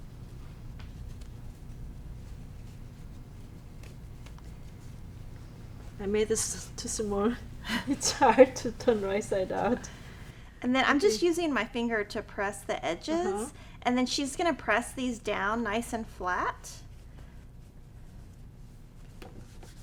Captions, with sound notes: I made this too small. (laughing) It's hard to turn right side out. - And then, I'm just using my finger to press the edges, and then she's gonna press these down, nice and flat.